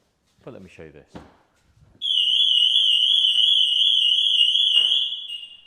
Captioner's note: alarm goes off